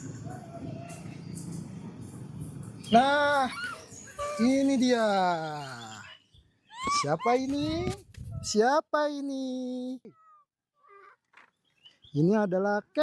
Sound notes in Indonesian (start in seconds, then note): 4.0 tertawa